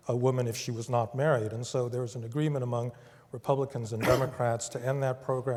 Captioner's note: cough